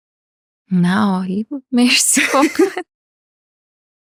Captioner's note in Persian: خنده